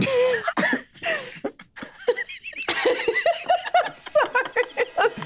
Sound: group laughing

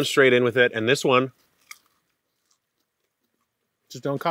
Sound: snaps

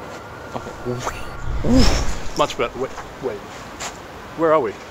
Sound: silly sound effect

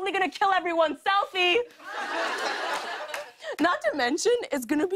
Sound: laughter

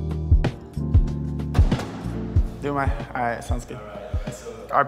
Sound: car door closing

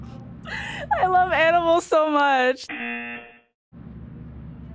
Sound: buzzer

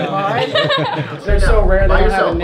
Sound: laughs

